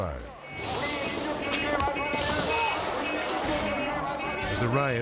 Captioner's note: crowd chattering indistinctly